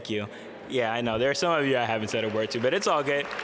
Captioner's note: audience laugh